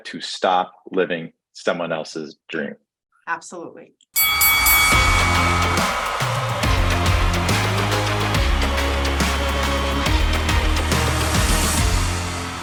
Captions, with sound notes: to stop living someone else's dream. - Absolutely. (bells dinging) (upbeat music) (upbeat music) (crowd cheering)